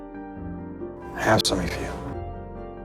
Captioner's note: voiceover